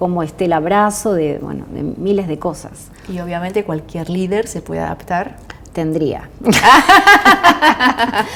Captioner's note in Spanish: risas